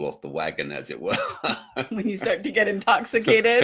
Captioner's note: laughing